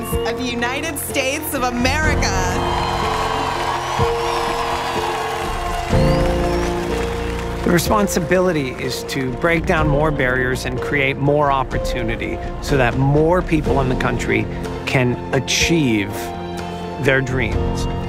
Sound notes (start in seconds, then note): 2.6 crowd cheering